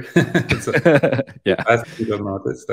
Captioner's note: laughing